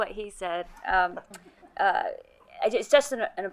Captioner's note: colleagues laughing